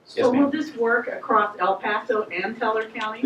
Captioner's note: voiceover